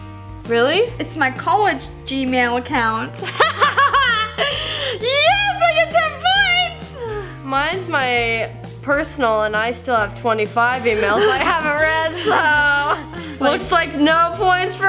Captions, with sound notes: - Really? - It's my college Gmail account. (laughs) yes, I get 10 points. - Mines my personal and I still have 25 emails I haven't read. So looks like no points for me.